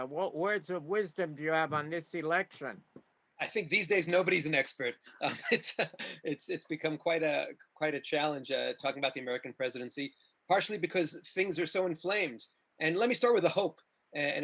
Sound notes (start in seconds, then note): 5.2 laughs